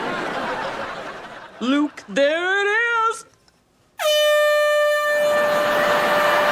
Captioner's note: horn